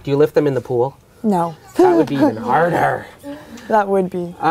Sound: laughs

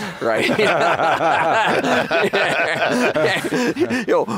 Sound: everybody laugh

